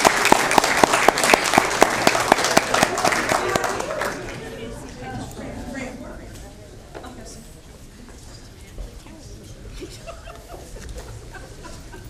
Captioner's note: applause